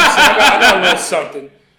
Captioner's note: laughter